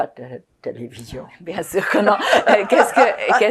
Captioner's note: laughing